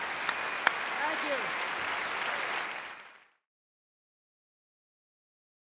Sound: applause

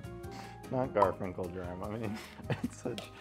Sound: graphic pops

